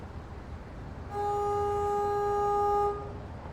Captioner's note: horn honks